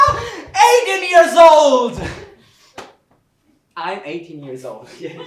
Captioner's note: clapping